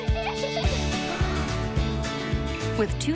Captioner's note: kid gasps